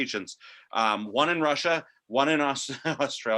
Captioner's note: chuckles